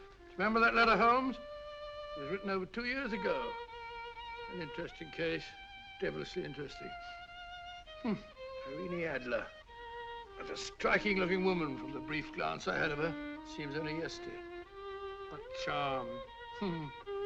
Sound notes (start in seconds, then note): none